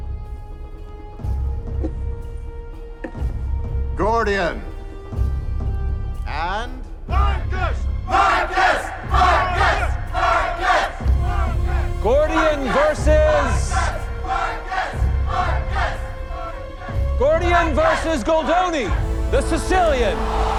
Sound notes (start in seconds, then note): 0.1 suspenseful music playing; 8.1 crowd